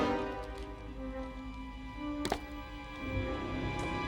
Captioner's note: hand scrabbling